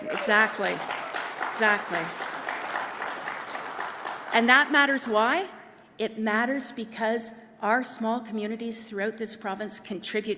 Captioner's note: applause